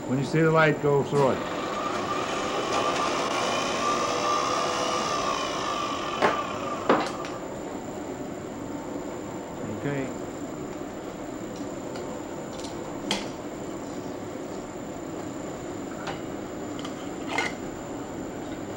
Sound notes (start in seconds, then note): 1.3 whirring sound